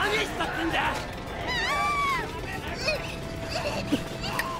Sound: crying

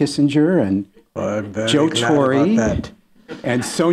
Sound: imitating Kissinger

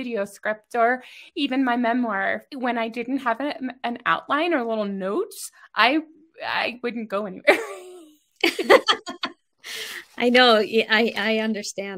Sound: laughs

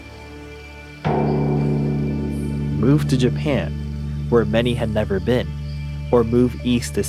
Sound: gong

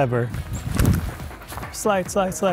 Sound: body whirring

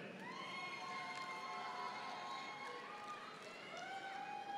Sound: audience applauding

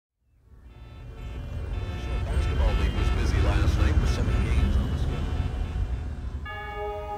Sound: car beeping; radio chatter

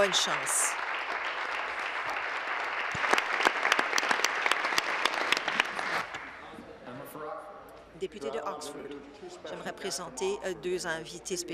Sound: applause

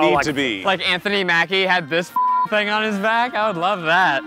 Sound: beep

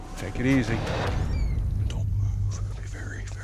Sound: whispering

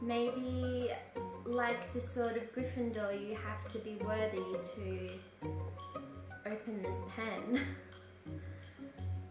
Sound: laughs

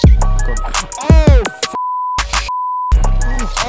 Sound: demonitization noises

